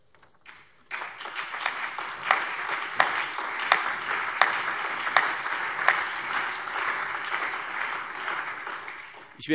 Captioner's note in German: Allgemeiner Beifall